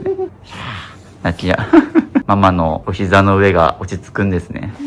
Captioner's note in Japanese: 笑い